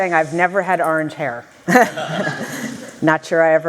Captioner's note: laughter